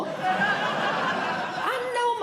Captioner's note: audience Laughing